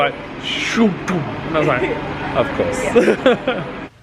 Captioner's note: laughs